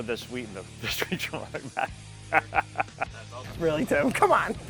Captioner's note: laughs